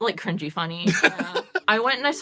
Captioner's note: laughs